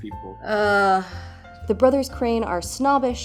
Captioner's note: hoots groans